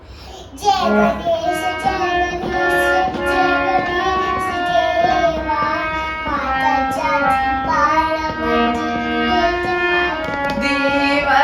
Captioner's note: chant